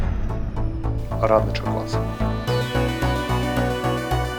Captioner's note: speaking in foreign language; upbeat music